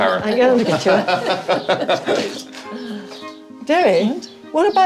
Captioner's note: laughter